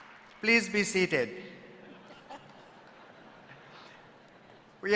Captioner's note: applause